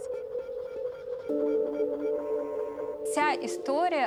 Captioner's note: equipment buzzing